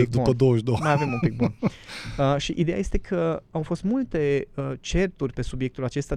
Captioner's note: laughter